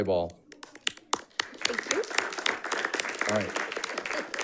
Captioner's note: audience applauding